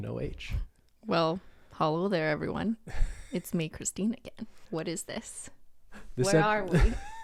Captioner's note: chuckles